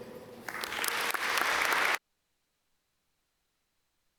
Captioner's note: audience applaud